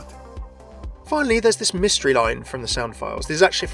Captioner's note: voiceover